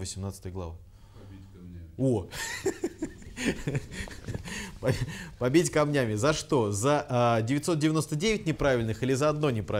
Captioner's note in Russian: смеется